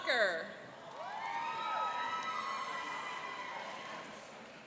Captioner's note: cheering